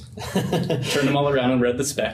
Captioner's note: laughs